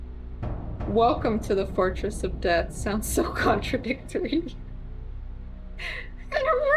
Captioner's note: laughs